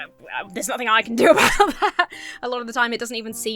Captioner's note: laughs